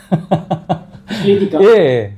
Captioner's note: laughs